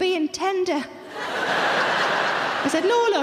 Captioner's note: audience laughing